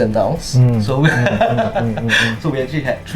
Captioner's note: laughs